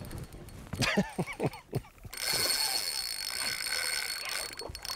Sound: excited laughing

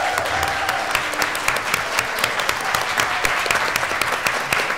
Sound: applause

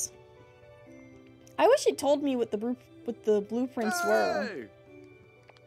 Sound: Eric Cheers

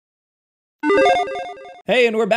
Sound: logo beeps

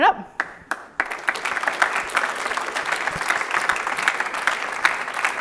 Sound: audience applauding

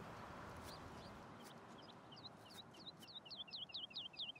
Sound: birds tweet

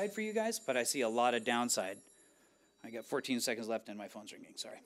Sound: phone ringing

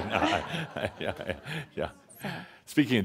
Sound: laughter

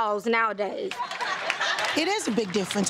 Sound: audience laugh

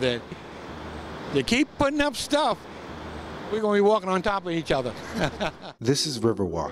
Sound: laughter

